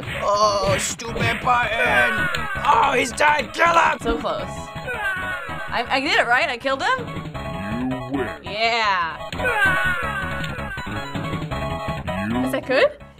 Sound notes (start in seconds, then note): 0.2 straining; 2.3 in game: echoing yell; 9.2 in game: echoing yell